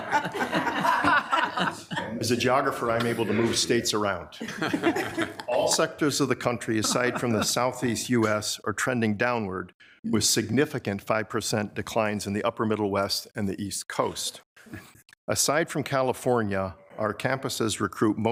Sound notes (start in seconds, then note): 4.4 attendees laughing